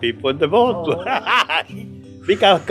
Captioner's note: laughs